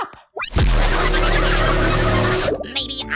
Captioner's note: contestants screaming